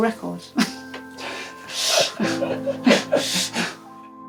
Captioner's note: laughing